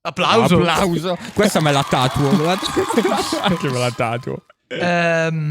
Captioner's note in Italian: laughter